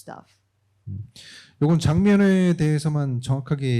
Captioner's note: speaking korean